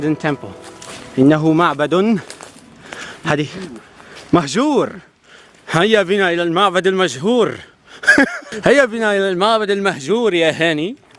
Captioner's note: saying random stuff in Classical Arabic